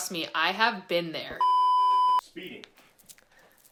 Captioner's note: beep